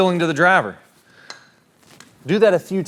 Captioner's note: club tapping